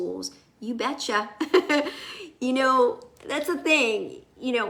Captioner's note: laughs